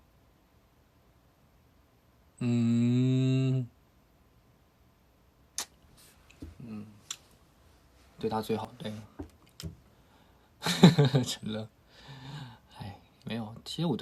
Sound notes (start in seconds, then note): 5.1 cuts out